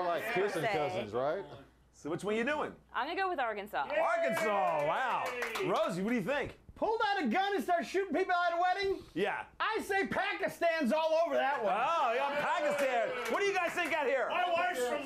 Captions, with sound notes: OR MAYBE NOT THEMSELVES PER SE. - SO WHICH ONE YOU DOING? - I'M GONNA GO WITH ARKANSAS. - ARKANSAS, WOW. ROSIE, WHAT DO YOU THINK? - PULLED OUT A GUN AND STARTED SHOOTING PEOPLE AT A WEDDING? I SAY PAKISTAN'S ALL OVER THAT ONE. [Scattered applause]